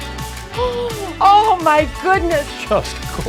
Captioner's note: gasps